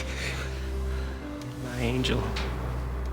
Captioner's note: inhales sharply